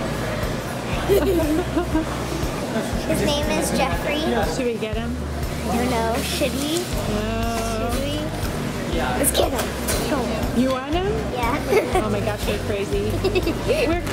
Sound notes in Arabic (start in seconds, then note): 11.6 الضحك